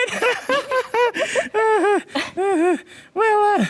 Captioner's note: laughter